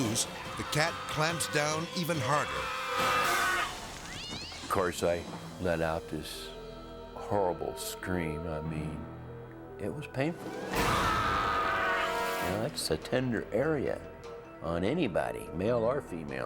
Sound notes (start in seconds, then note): 2.4 yells; 3.9 cat yowls; 10.9 yells